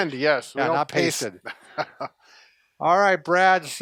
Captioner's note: laughs